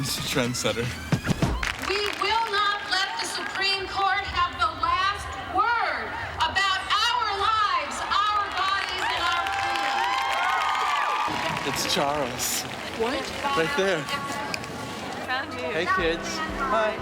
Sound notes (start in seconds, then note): 1.4 audience claps; 9.8 audience cheers drown out speaker